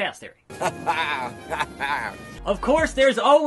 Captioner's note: laugh